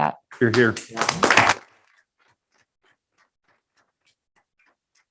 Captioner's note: group applauding